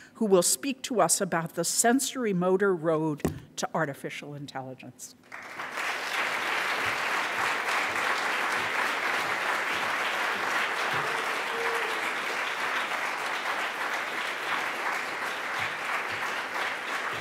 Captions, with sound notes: who will speak to us about the sensorimotor road to artificial intelligence. (audience applauds)